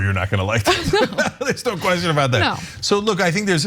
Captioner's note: laugh